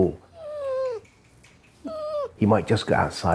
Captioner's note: dog whimpering